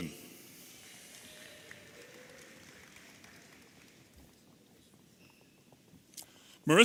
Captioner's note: audience applauding and cheering